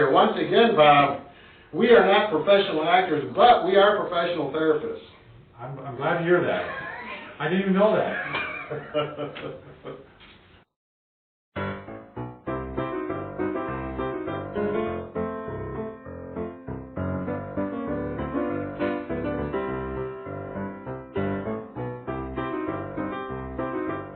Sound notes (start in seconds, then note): 8.0 laughs; 11.9 ragtime music plays; 20.4 ragtime music continues